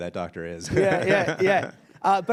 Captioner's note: laughs